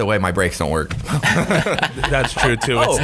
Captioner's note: laughing